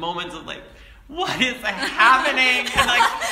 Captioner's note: laugh